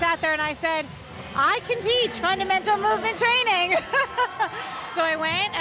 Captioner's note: laughs